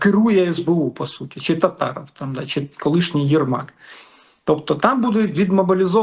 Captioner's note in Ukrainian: сопіння